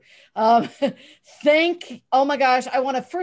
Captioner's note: laughs